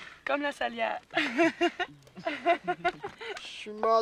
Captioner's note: rires